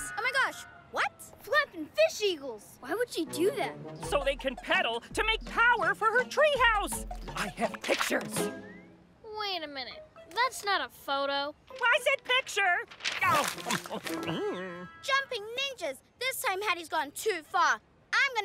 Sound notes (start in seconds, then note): 13.3 chomping